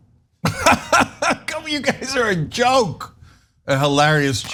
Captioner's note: laugh